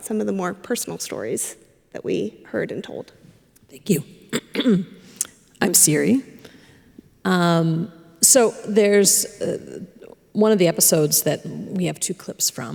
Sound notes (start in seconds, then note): 4.3 clears throat